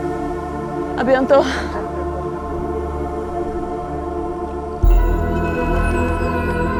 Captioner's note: both speaking in foreign language